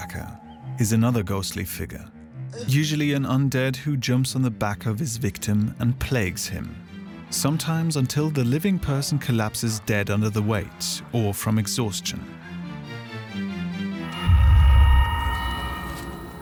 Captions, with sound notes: The "piggy-backer" is another ghostly figure: usually an undead, who jumps on the back of his victim and plagues him. Sometimes until the living person collapses dead under the weight or from exhaustion. [Eerie noises]